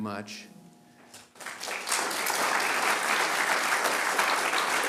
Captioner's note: applause